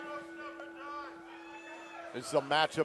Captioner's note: bell